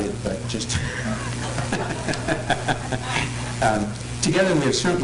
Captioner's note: laughter